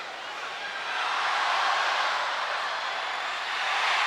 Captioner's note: crowd cheering